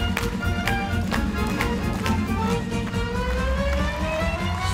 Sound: dancers clap

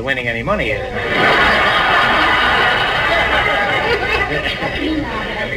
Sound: audience laughs

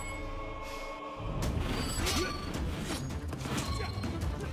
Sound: both grunting

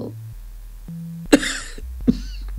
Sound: a small slight cough

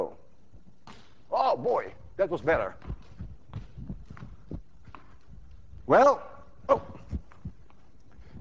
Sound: ball bounces

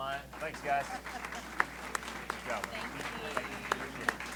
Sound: applause

